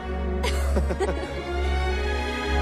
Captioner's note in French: rires